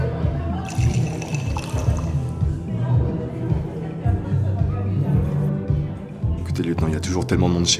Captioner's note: party sounds